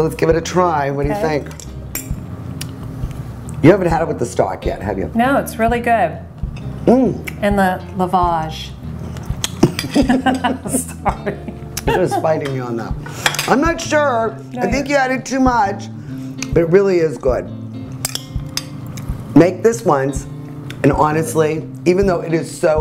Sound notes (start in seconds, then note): 9.6 both laugh